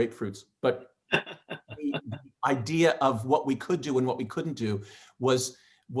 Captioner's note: laughing